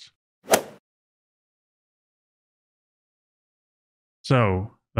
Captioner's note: golf ball hit sound effect